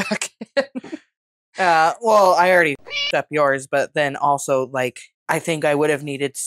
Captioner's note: meow